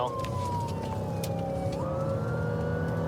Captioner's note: siren blaring